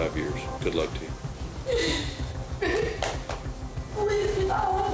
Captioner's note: sobbing